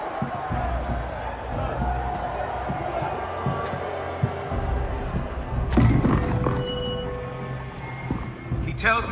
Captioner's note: cheering